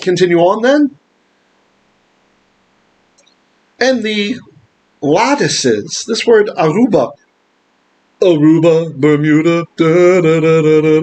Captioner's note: Hebrew